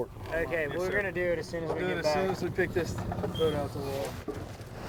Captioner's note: boat engine revving